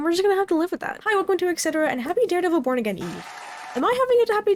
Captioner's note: applause